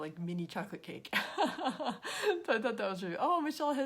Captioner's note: laughs